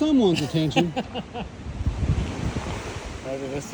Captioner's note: laughs